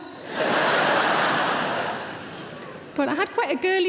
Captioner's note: audience laughs